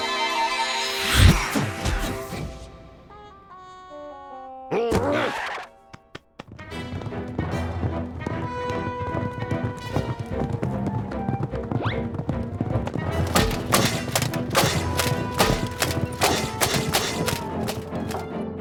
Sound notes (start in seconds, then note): 4.7 grunts